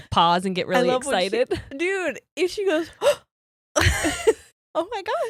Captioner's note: gasps